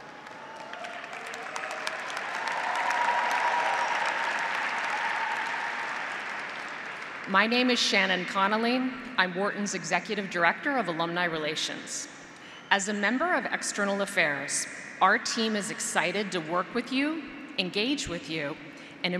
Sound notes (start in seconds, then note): 0.0 audience and graduates applauding; 3.2 audience cheering